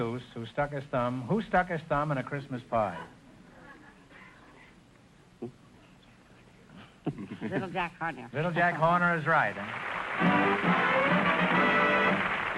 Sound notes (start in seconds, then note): 3.5 whispering; 9.6 triumphant music & applause